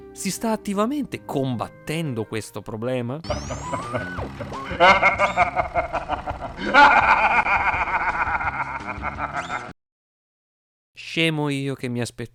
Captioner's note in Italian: Cortex's evil laugh